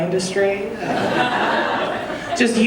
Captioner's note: audience laughing